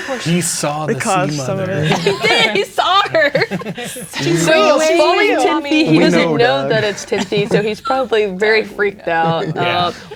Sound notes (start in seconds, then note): 4.8 others speaking and laughing; 8.9 others speaking and laughing